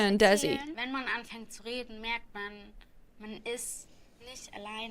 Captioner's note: speaking in German